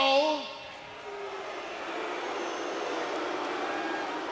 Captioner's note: audience booing